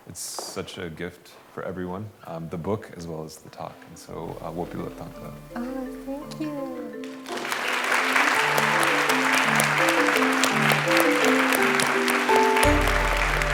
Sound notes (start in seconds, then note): 4.3 non-english speech; 6.9 applause